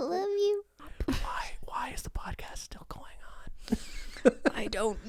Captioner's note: whispering